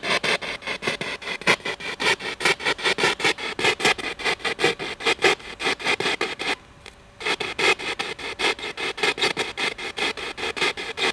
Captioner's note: radio noise from the spirit box